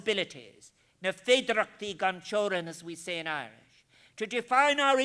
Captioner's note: foreign Language